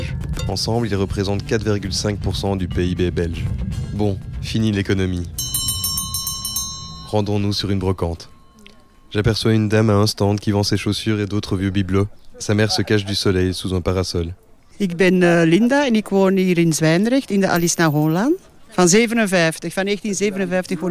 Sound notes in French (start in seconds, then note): 5.3 son de cloche